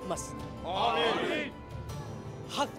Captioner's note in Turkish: Hep bir ağızdan